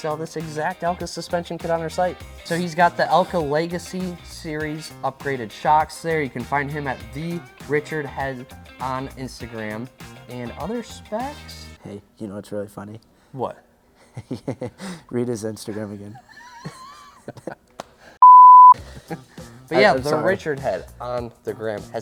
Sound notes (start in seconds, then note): 14.0 laughs; 16.1 both laugh